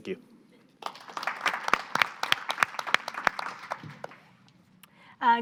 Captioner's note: audience applauding